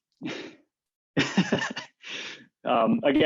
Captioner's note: laughing